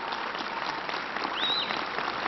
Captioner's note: applause